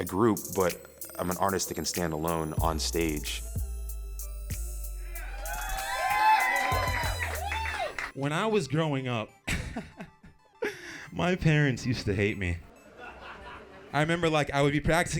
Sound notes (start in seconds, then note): 5.1 crowd cheers; 9.9 laughs